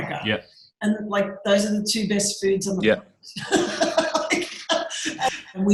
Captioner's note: laughs